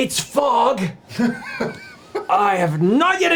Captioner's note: laughs